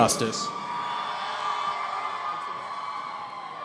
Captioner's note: cheering